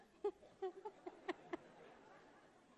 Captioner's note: laughter